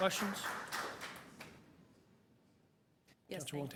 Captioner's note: applause